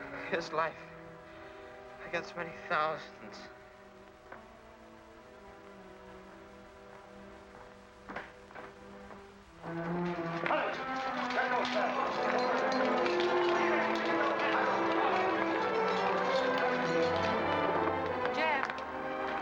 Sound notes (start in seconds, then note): 10.5 soldiers barking orders